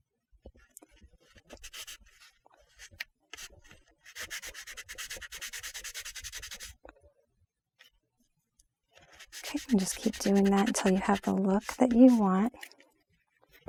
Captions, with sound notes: (block scratching) And just keep doing that until you have the look that you want.